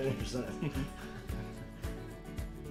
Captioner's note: both laughing